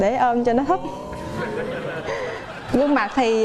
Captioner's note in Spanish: risas